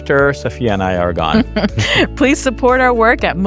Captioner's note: laughs